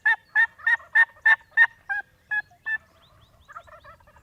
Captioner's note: turkey gobbling